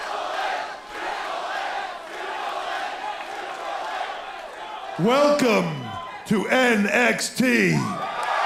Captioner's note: crowd cheering